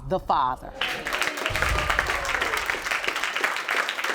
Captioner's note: audience applauding